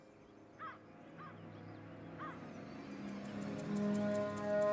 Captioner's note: crow caws